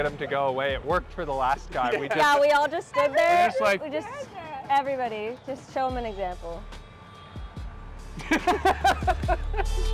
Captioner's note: laughter